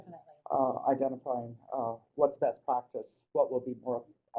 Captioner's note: voiceover